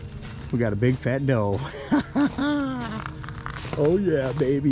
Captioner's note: laughs